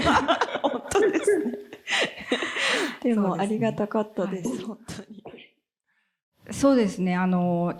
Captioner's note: laughs